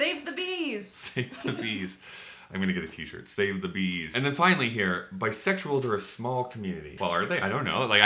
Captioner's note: chuckles